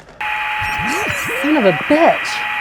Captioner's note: static buzzing